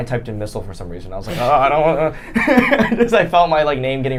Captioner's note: laughing